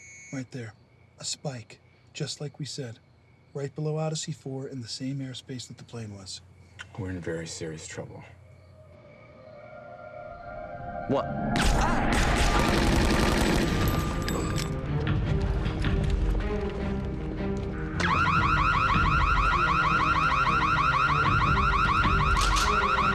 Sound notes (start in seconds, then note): 11.1 screams; 11.6 machine guns firing; 17.9 alarm sirens wailing